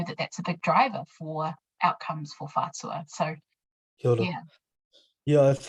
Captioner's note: speaking in foreign language